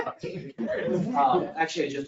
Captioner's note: people laugh